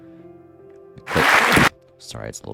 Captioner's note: applause